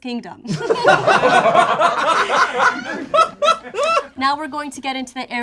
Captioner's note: group laughs